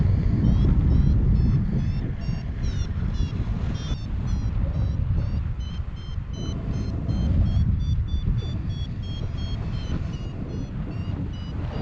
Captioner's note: Vario beeping